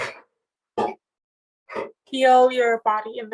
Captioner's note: metal banging